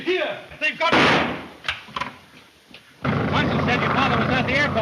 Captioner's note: gun firing